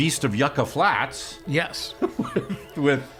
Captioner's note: laughing